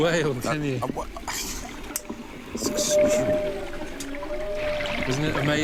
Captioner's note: stammering